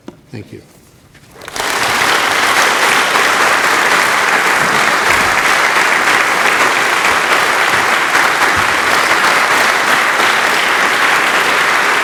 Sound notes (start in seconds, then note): 1.3 applause